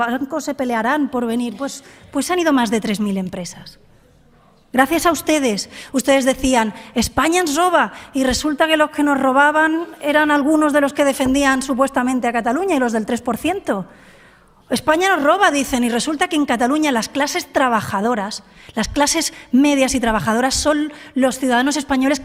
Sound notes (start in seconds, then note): 5.2 in catalán